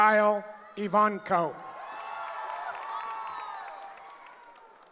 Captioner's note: cheering